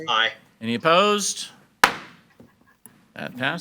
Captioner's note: gavel bangs